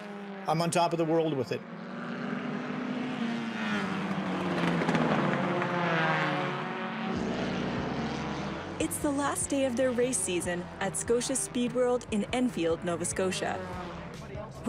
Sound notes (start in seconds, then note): 4.0 sound of race cars